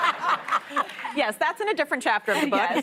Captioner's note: laughter; laughter